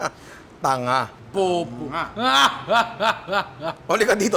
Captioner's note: laughs